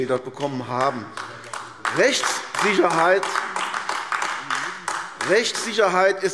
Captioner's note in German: Beifall AfD